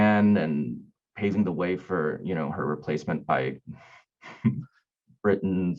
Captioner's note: chuckling